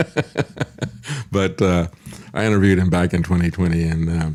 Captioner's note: laughs